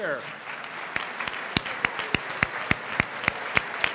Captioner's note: applause